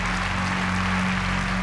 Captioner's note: applause